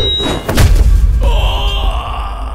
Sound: screaming in pain

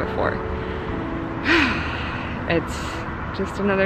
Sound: sighing

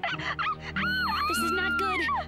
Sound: screams

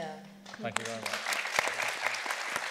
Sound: people applauding

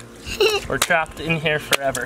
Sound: laughter

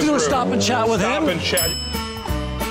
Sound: bell dings

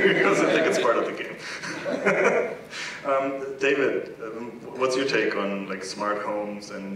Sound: laugh

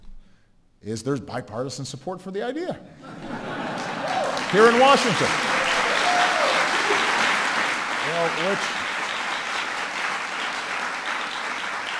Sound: laughter

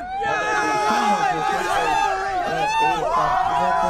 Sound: cheering

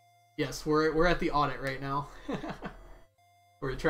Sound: laughs

